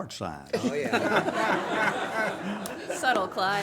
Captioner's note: everyone laughs